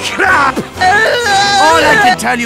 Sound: cries

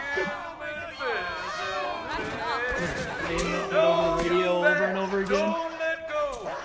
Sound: booing

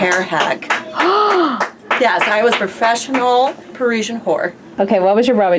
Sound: clapping

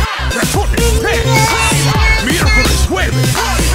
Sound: baby Talk

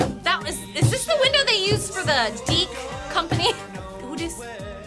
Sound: laughs

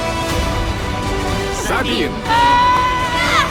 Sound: shouts

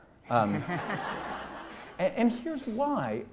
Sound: laughter

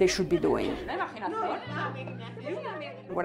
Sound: women laughing

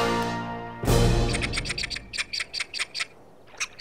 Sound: squeaking

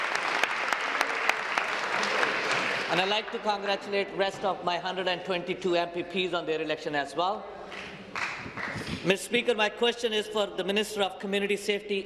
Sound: applause

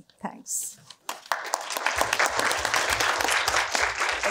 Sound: applause

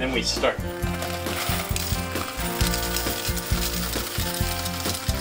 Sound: jangle of coins

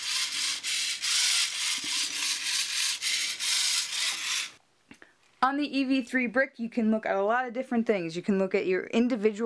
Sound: motors running

